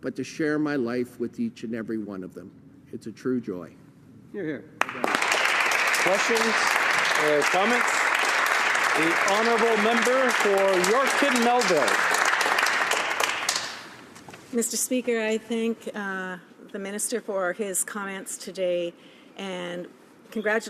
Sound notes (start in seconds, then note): 13.0 applause